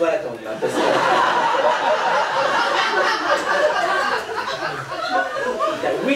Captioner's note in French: rires public